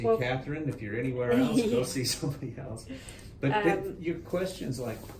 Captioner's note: chuckles